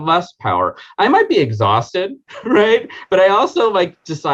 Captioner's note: chuckling